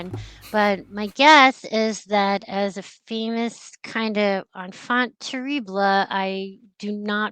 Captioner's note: speaks french